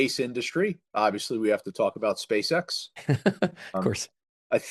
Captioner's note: laughs